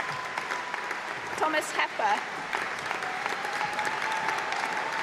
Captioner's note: applause